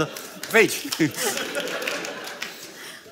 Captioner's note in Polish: śmiech